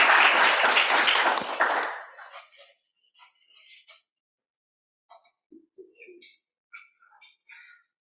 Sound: applause

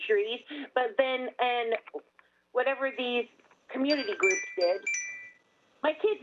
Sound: chime

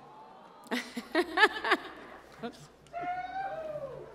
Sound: laughter

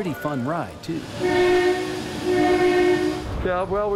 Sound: monorail horn blows

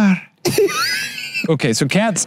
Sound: laughs

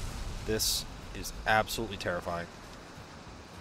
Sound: none

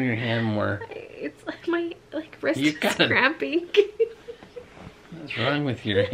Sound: laughs

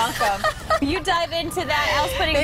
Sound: laughter

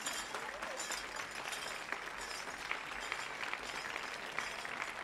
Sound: regalia ornaments jingling; audience applauding

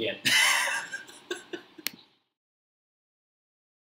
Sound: laughs

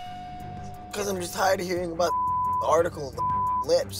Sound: beep

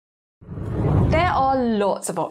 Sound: screen whooshes

